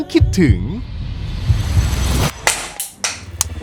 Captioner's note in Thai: เสียงหัวใจเต้น; เสียงตีสเลท